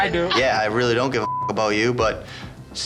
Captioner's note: beep